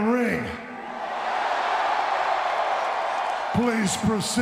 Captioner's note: audience cheering